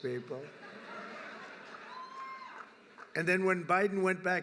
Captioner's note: laughter